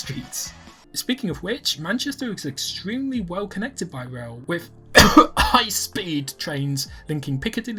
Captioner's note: cough